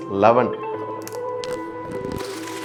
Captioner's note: foil ripping